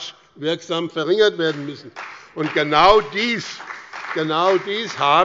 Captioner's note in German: Beifall bei der CDU und dem BÜNDNIS 90/DIE GRÜNEN